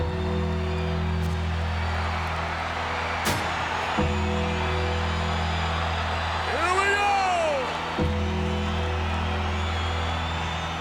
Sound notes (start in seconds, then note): 0.2 bell tolls; 1.8 crowd cheers; 8.2 bell tolls